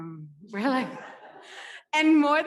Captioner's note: audience laughs